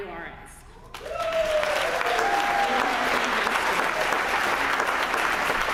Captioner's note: applause